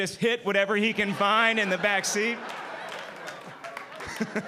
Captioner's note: laughing